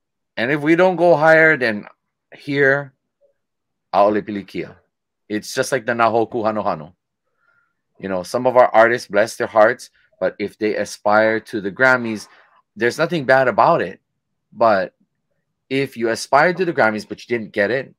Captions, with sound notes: And if we don't go higher than here, (speaking foreign language), it's just like the (speaking foreign language), you know, some of our artists bless their hearts, but if they aspire to the Grammys, there's nothing bad about it. But if you aspire to the Grammys, but you didn't get in,